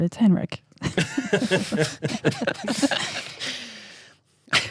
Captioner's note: laughter